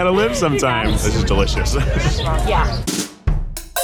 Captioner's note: laughs